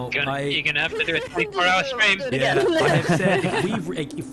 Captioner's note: excited chatter